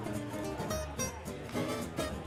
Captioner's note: none